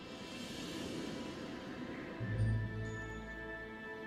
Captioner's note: wind blowing